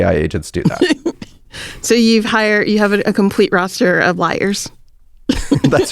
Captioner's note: laughs; laughs